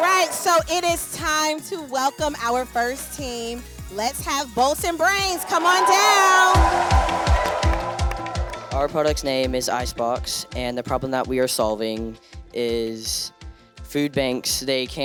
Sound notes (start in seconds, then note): 7.0 crowd cheers; 7.0 lively music